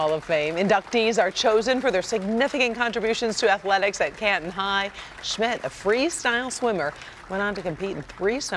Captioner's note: applause